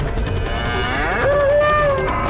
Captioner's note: bull grunts